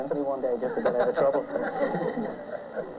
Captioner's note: laughter